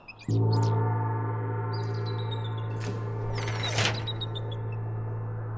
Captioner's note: brids chirping